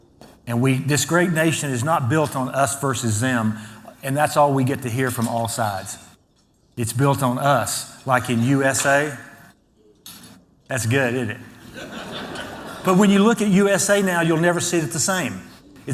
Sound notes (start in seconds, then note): 11.6 laughter